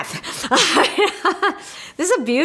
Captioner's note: laughs